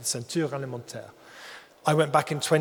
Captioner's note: speaks in foreign language